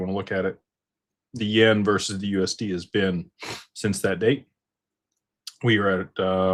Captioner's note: snorts